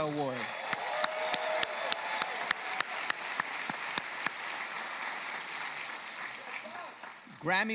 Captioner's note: applause